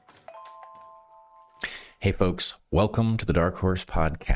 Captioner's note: bell Ringing